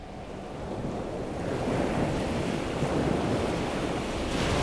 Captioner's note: waves crashing